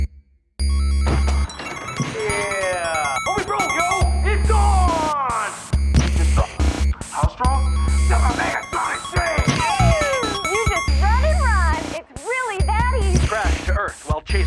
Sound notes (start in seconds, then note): 3.1 tv noises